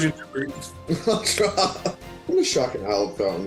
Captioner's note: laughs